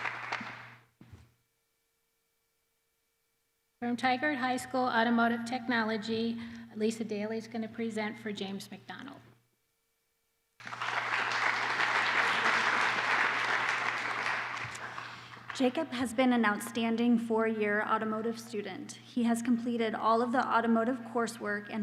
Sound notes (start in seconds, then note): 10.6 applause